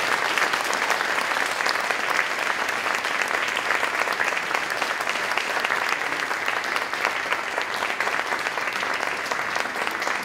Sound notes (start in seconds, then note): 2.5 applause